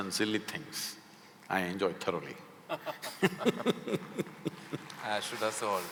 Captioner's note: both laugh; applause